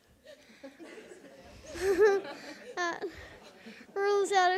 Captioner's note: audience laughs